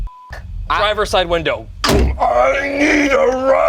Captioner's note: beeps; bangs; grumbling